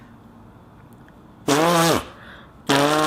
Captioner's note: long fart sound